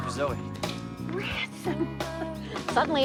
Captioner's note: laughs